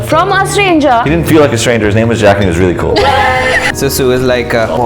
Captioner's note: laughter